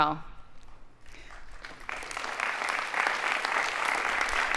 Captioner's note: audience applauding